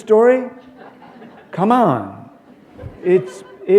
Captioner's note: laughter